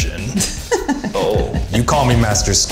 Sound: mistress laughing

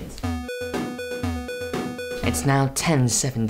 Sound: rhythmic digital beeping

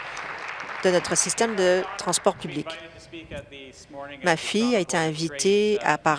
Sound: applause

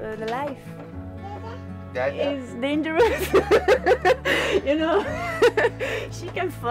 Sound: laughter

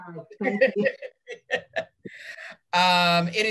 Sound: laughs

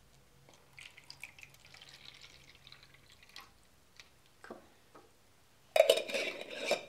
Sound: water pouring

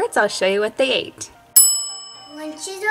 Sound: bell chimes

